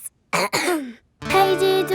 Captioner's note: clears throat